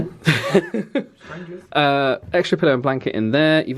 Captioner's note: laughs